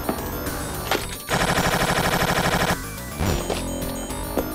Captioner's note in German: Schüsse